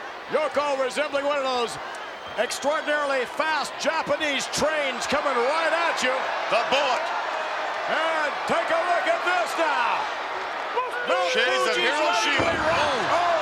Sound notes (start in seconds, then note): 7.4 audience cheers